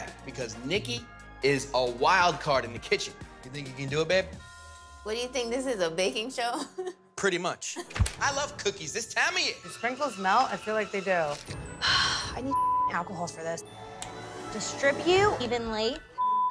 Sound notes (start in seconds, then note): 6.7 chuckling; 11.8 sighing; 12.4 beep